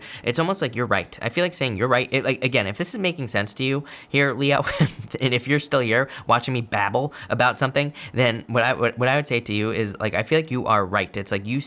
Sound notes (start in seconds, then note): 4.6 laughs